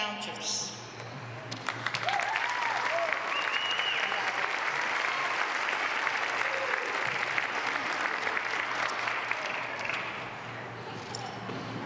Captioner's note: applause